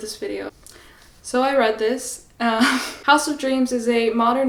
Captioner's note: laughs